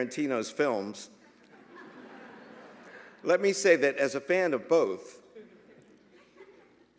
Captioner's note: laughter